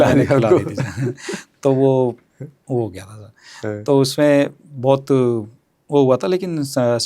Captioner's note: laughs